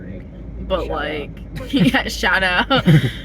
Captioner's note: laughing